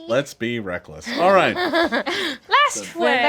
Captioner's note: group laughs